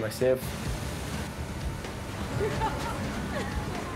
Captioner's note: laughing